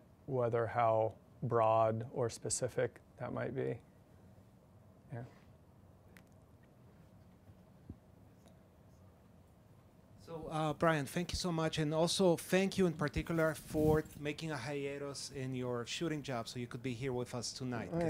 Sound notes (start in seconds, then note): 10.3 voiceover